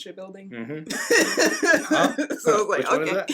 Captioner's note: laughs